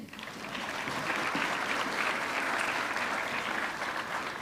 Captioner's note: audience clapping